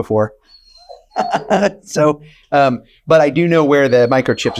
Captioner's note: laughing